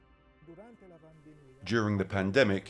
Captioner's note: speaking in foreign language